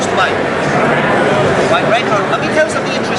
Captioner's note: crowd